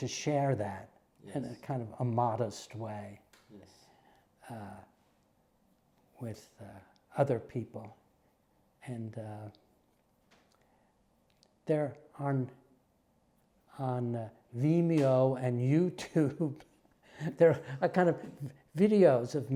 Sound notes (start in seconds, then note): 13.3 laugh